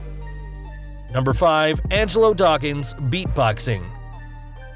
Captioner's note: beat boxing